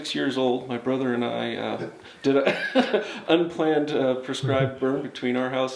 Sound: laughs

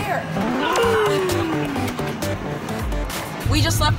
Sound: electronic game music; groaning

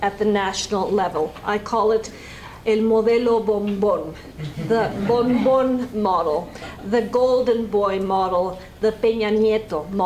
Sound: spanish

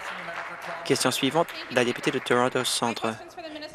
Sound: applause

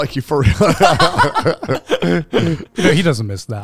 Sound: all laughing

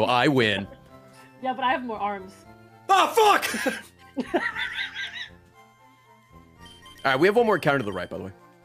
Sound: laughs

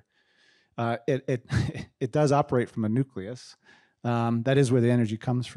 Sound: chuckles

